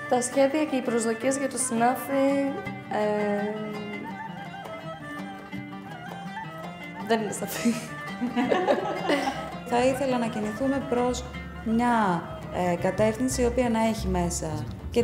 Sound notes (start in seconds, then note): 8.1 group laugh